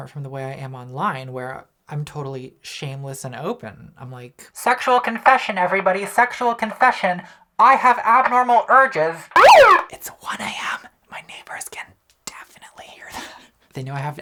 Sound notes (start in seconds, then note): 9.3 siren blaring